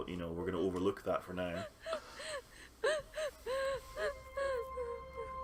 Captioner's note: woman sobs loudly throughout scene